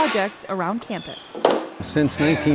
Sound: clattering

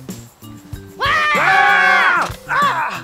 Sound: both screaming

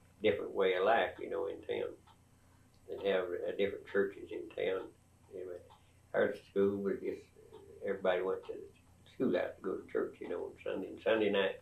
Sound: laughs

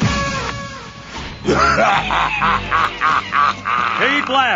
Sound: evil laughter

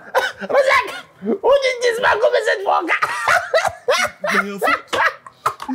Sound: Baba Gody resumes laughing

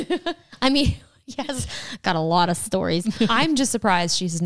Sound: laughs; laughs

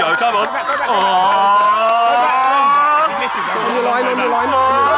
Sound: all yelling

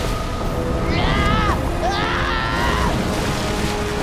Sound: screaming

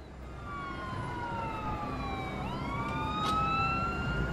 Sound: sirens wailing

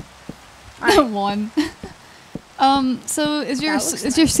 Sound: laughs

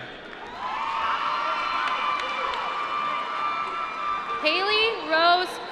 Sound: cheering

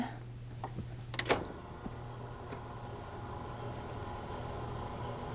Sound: machinery humming

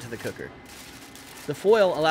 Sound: foil crumpling

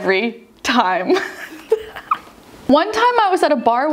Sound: laughs

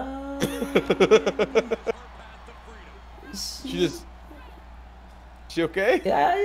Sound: laugh

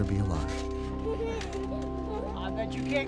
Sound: child laugher

